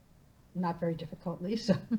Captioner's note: laughs